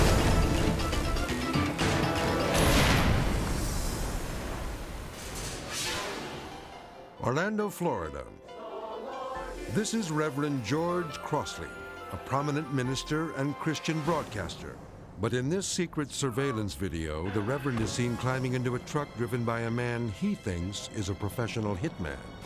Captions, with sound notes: (dramatic orchestral music) (waves crashing) (transition whooshes) Orlando, Florida. This is Reverend George Crossley, a prominent minister and Christian broadcaster. But in this secret surveillance video, the reverend is seen climbing into a truck driven by a man he thinks is a professional hitman.